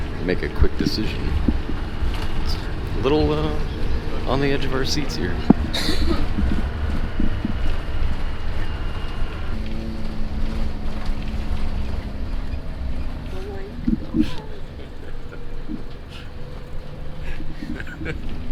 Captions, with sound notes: make a quick decision. It's a little on the edge of our seats here. (coughs) - Don't worry. (laughs)